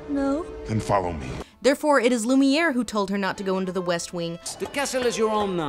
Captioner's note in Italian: voce fuori campo